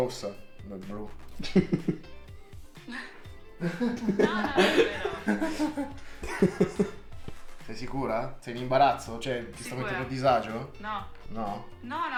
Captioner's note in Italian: risate